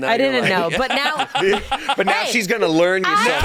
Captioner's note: laughing